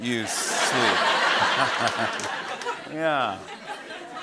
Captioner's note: chuckles evilly